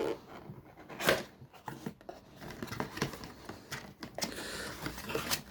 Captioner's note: box sounds